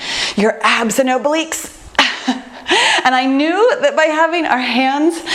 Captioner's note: laughs